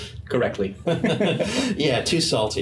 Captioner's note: laughing